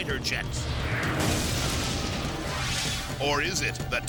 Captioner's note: engine exploding